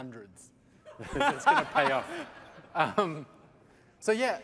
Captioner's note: laughter